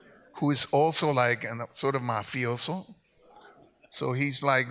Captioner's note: speaks in Spanish